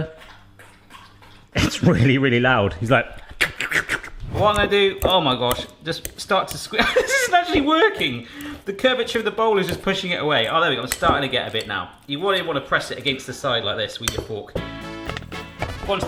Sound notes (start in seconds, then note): 0.0 slurping water; 3.2 imitates slurping water; 6.7 laughs; 14.5 upbeat music